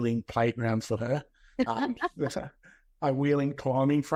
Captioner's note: both laughs